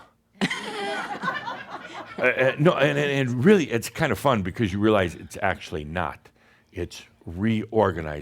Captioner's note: some chuckles